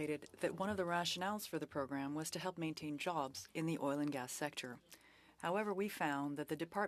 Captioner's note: speaking French